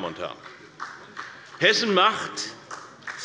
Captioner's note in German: Beifall